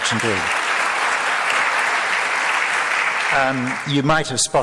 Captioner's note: crowd applauds